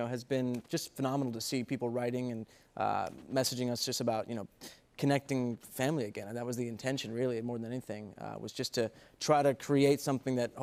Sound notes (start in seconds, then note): none